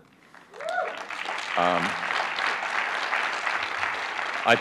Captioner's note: applause